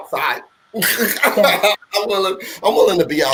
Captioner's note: laughing